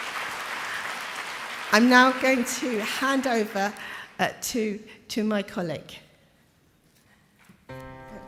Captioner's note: applause